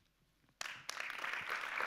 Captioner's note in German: Applaus